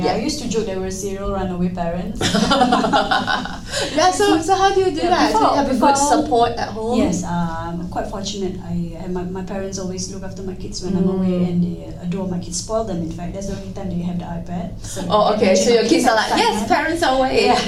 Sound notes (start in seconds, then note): 2.2 laughing